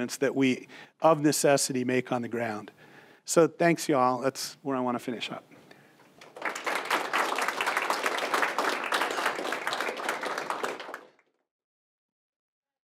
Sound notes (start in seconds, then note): 6.1 audience clapping